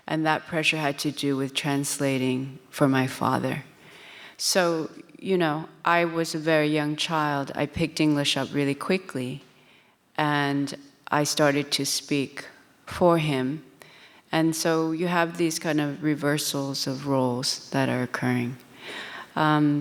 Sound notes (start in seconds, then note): none